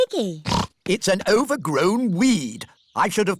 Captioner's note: snorts